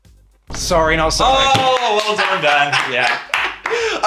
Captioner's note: claps; laughs